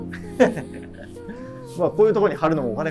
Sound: laughing

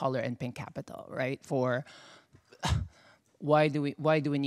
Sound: scoffs

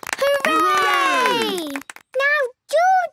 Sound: cheering, clapping

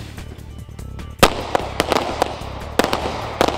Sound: gun shots

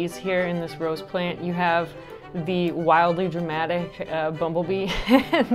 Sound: laughs

